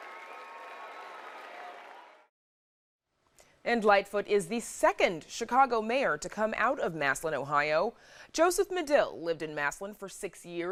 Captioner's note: cheering